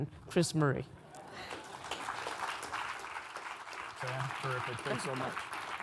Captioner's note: audience applauding